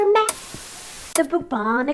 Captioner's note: projector whirring